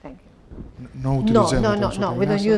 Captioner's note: speaking spanish